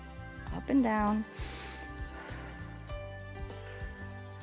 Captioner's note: inhales and exhales